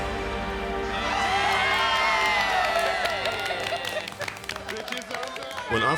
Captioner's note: dramatic music; group cheering and clapping